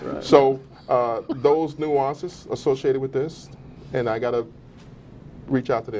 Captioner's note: laughter